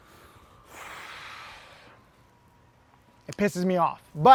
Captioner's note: deep breath